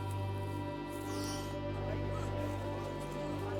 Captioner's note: gasps